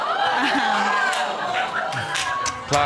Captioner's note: audience exclaims